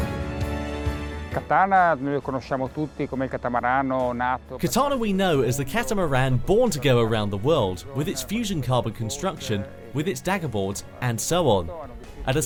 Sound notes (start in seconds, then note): 1.5 man speaks in foreign language